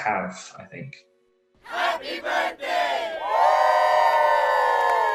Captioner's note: crowd; cheering